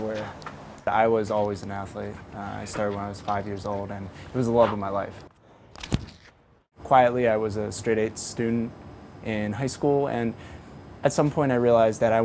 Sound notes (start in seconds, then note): 4.0 feet landing